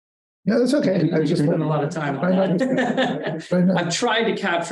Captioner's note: chuckling